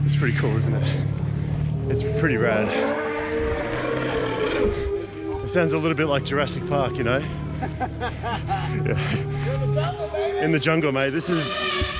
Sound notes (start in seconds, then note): 3.6 elephants trumpeting; 7.1 laughing; 11.8 elephant trumpeting